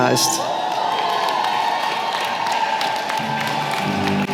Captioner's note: applause